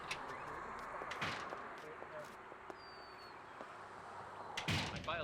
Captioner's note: door thudding